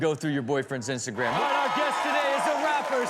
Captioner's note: audience cheers